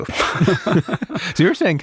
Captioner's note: both speakers lauging